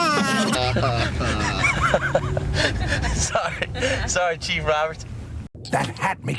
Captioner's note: laughs